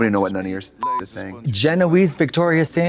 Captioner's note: beep